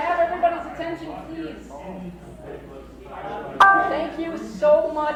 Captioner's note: none